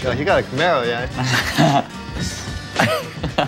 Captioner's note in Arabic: ضحك